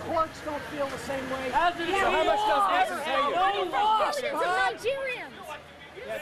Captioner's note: chatter